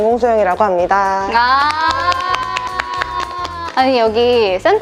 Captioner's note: clapping